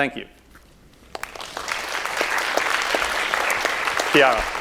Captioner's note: applause